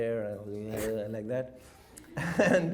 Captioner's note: drools; chuckles